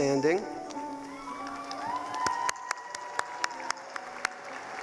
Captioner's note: cheering